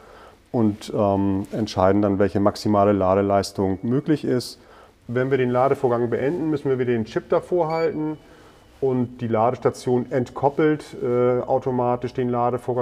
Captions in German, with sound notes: und entscheiden dann, welche maximale Ladeleistung möglich ist. Und wenn wir den Ladevorgang beenden, müssen wir den Chip davorhalten. (Piepsen) Und die Ladestation entkoppelt automatisch den Ladevorgang